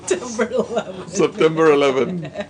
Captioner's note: laughter